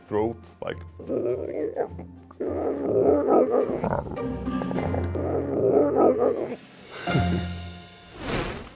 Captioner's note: throat noise